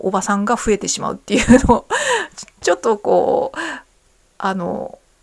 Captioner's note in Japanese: 笑い